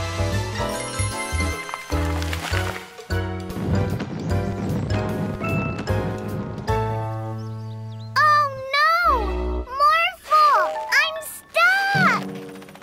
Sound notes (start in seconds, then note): 3.4 footsteps booming